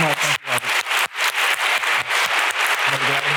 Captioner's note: applause